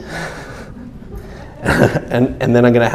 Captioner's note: chuckles